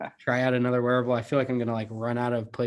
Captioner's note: laughs